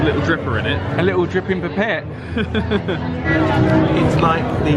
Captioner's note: laughs